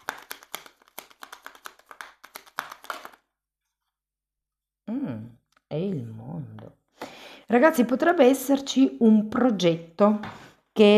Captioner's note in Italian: Applauso